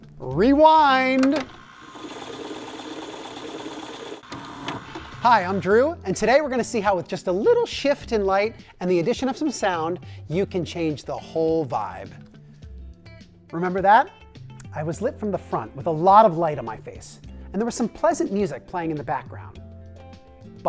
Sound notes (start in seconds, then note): 1.2 videotape rewinding